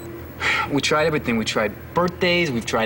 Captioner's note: sighing